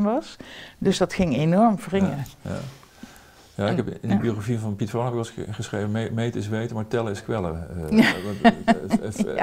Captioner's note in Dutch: Lacht